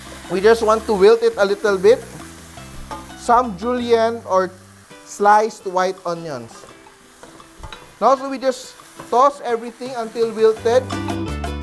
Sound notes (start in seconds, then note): 0.0 sizzle; 7.5 clang; 7.5 sizzle